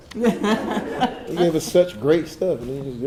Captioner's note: audience chuckling